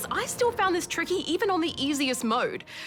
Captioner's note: none